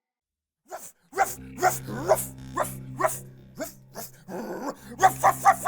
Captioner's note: homeless man continues to bark like a dog